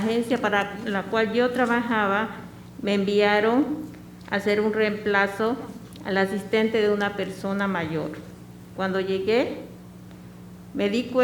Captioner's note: speaking spanish